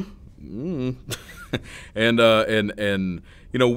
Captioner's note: laughing